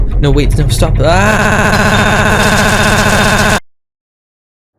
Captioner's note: glitchy repeated yelling